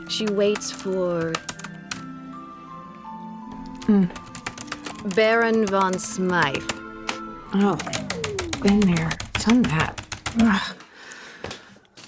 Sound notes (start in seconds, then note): 1.2 typing stops; 4.0 typing resumes